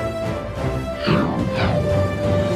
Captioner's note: woosh